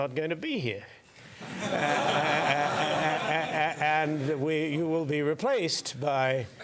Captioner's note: laugh